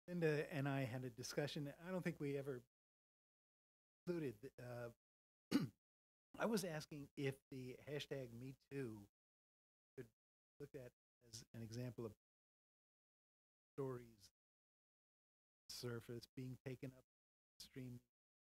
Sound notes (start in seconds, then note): 5.5 cough